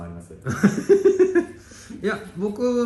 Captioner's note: laughs